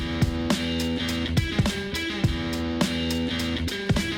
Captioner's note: machine whirs